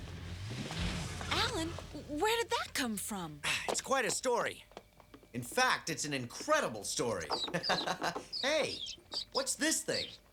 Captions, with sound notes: Alan! - W-Where did that come from? - (GRUNTS) It's quite a story. In fact, it's an incredible story. (LAUGHS) Hey, that's this thing?